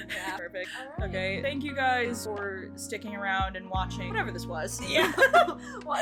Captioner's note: laughter